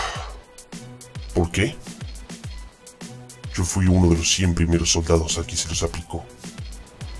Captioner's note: sigh